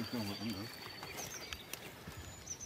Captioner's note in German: Leise Gesprächsfetzen